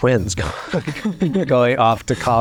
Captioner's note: all chuckle